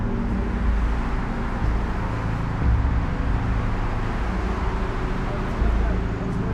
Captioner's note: faint traffic noise; ominous music